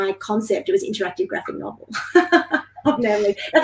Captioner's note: laughing